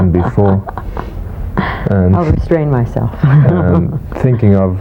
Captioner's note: laughing